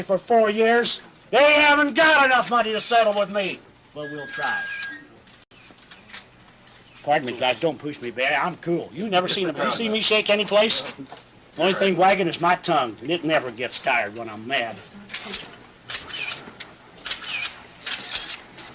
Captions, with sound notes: for four years. They haven't got enough money to settle with me. - Well we'll try. (cameras shuttering) - Pardon me guys, don't push me back. I'm cool. You never see a piece of me shake anyplace? The only thing wagging is my tongue, and it never gets tired when I'm mad. (cameras clicking)